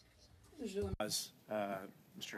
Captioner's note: speaking French